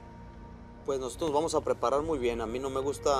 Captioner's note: speaking Spanish